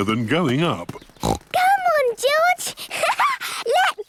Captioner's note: snorts; laughs